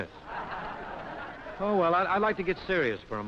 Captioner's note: laughter